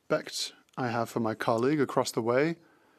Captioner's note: speaking French